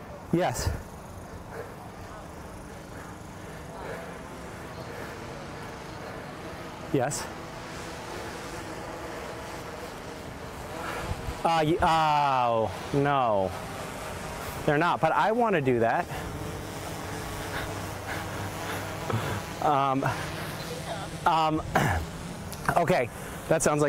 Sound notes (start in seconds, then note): 0.6 breathing heavy; 5.1 breathing heavily; 7.9 breathing; 16.6 laughing